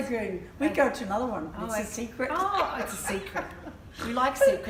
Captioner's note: laughter